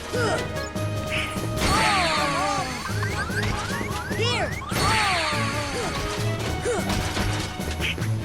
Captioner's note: death sounds